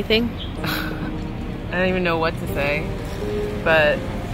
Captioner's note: chuckles